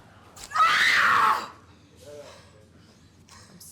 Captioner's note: Abby screams